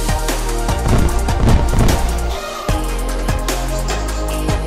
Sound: fireworks explode

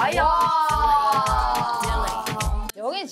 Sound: impressed claps

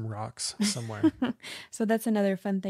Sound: laughs

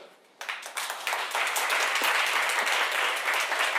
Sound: applause

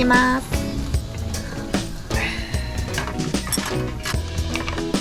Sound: sighing

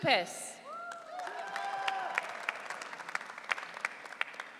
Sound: audience cheering

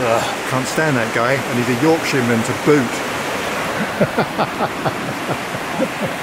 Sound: laughing

